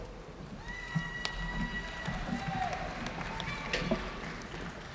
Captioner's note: audience cheering